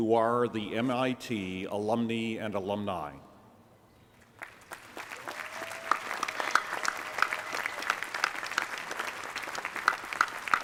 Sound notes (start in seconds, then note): 4.2 applause